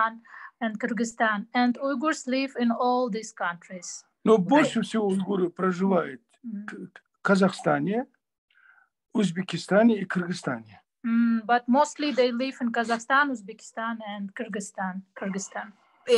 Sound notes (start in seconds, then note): 7.3 in Russian